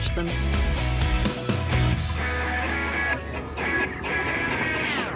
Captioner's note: engine noises; rock music